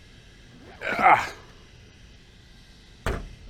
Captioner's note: grunts